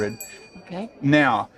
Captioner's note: bell rings